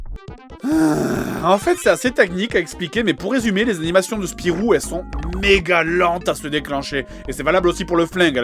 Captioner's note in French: soupir